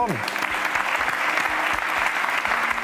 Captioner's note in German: Applaus